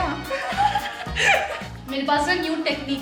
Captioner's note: laughing